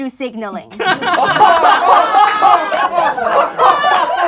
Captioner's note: laughing